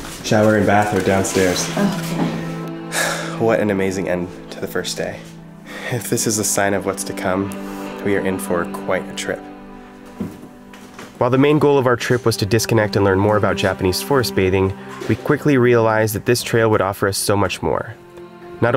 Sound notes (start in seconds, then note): 2.8 sighs